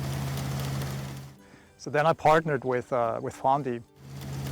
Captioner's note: tractor buzzing